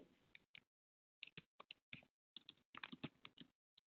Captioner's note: keyboard clicking